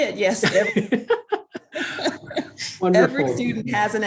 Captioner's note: laughs